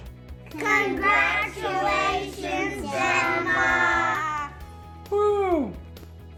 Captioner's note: in Unison